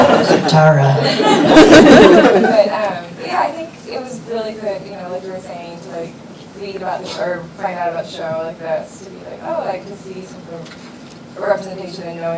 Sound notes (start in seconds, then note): 0.0 everybody laughing